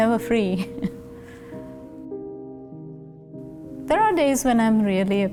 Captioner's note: laughs